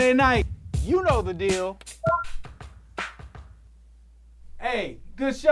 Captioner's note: soundboard beeps